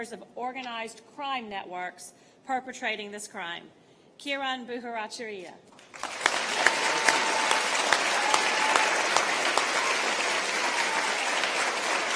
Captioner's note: applause